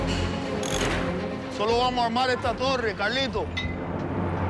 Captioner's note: speaks spanish